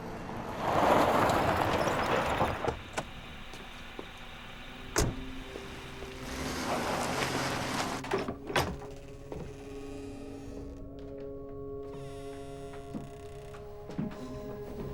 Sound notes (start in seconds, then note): none